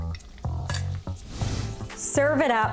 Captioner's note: tongs clanking